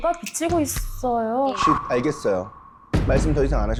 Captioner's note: covering mouth sound effect